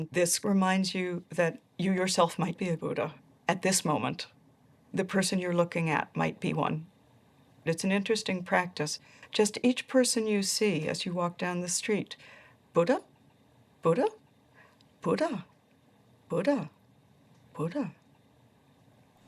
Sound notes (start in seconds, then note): none